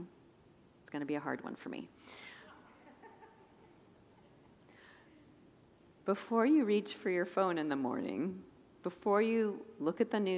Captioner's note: congregants laugh